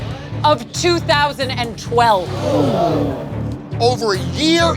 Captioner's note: gapss